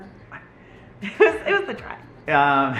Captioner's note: laughs